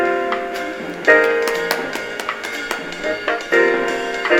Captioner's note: clapping; jazz music